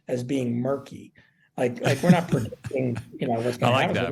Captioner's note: laughs